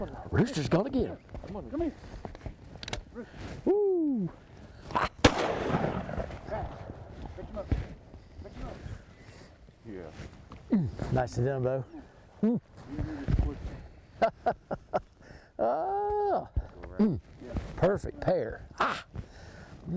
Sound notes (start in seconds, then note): 5.2 gun bangs; 14.2 laughs